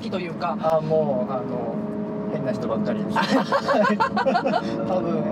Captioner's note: laughs